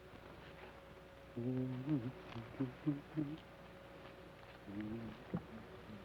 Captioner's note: Joshua hums melodically